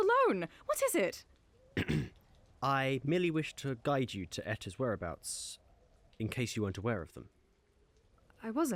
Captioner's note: clears throat